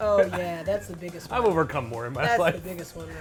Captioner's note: laughs